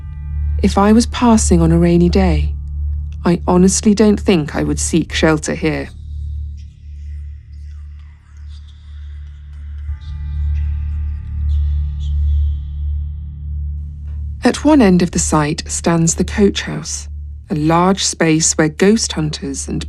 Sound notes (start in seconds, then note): 7.8 whispering